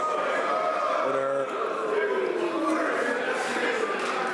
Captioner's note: some Applause